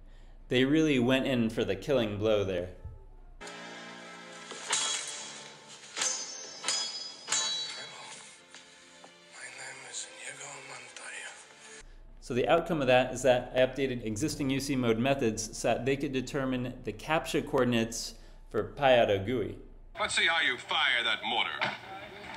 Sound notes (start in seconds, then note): 5.9 swords Clinking